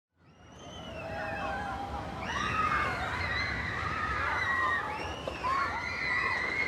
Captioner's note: screams